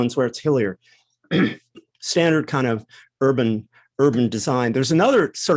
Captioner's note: cough